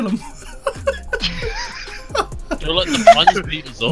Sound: everyone laughing

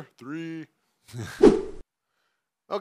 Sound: whooshing sounds

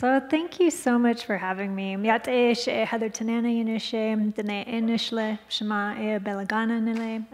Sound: speaking in foreign language

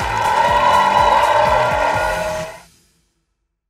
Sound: audience cheers

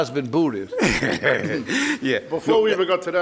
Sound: laughing

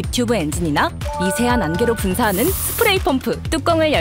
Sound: air / Spray Pump

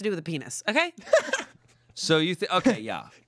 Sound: laughs

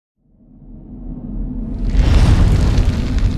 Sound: whooshing

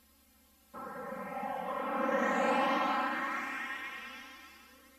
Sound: winds howling amid VHS static

